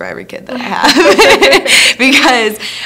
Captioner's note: both laugh